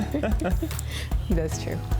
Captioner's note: both laugh